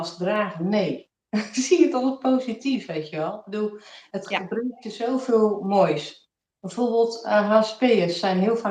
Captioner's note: laughs